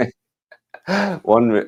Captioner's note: both laughing